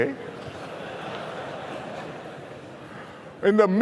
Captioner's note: laughter